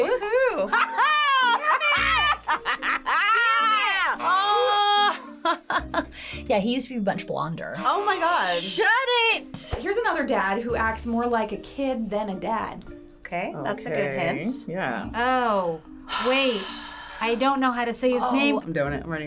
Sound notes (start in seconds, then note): 5.1 laughing